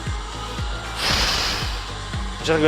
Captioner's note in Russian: Выдох